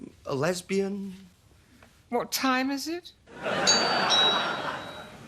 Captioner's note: doorbell